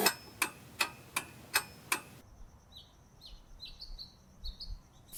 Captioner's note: clock ticking